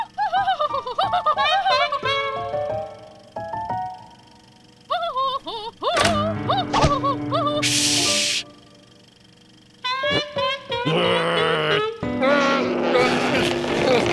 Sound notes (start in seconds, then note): 0.0 laughing; 0.0 trumpeting laugh; 4.9 laughing; 10.0 growls